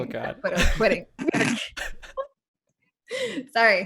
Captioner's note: laughter